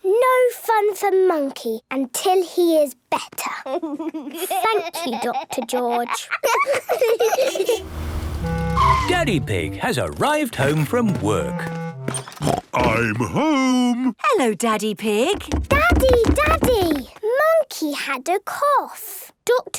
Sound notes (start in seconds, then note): 7.3 laughs; 12.2 snort